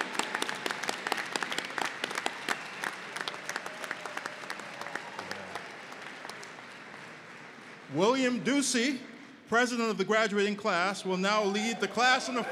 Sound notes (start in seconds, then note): 2.2 applause